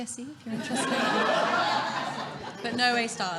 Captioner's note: audience laughing